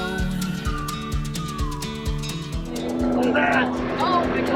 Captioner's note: whistling